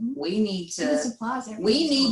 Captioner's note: faintly speaking